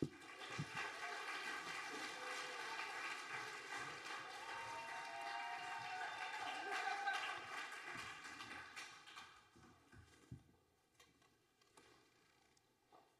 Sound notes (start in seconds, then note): 0.1 audience applauding; 4.9 audience whooping